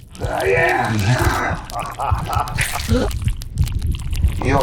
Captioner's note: choking; laughter